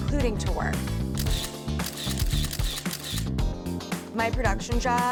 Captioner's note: cameras clicking